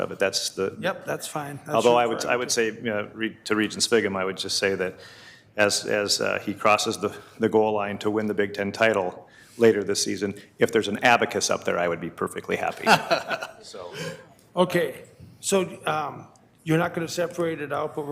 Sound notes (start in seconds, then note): 12.8 laughing